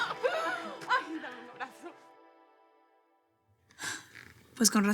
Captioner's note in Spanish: Risas